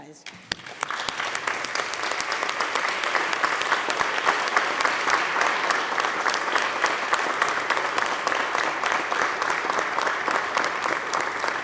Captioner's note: applause